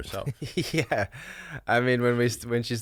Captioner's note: laughs